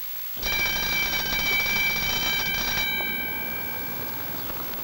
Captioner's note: school bell ringing